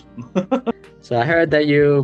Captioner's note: laughs